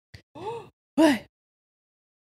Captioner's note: gasps